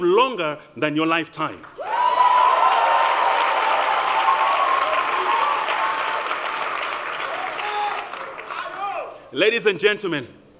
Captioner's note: applause